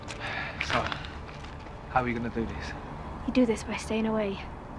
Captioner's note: sighs